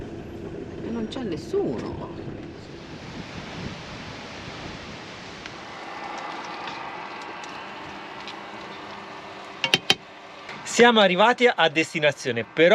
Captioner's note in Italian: Applauso